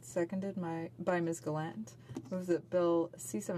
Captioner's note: speaking French